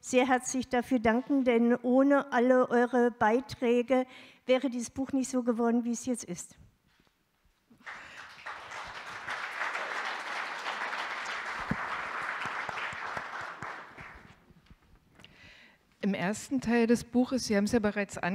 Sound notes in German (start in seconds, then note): 7.8 Applaus